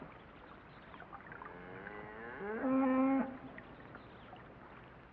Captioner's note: cow moos